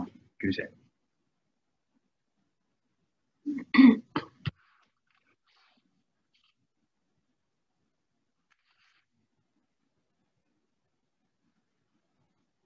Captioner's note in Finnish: hiljaisuus